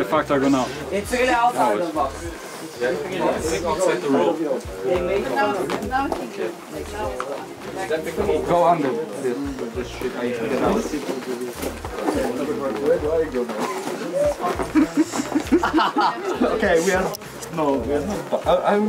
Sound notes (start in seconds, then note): 1.4 all chattering